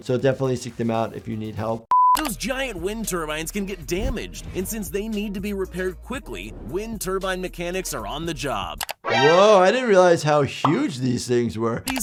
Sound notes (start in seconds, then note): 1.9 screen beeps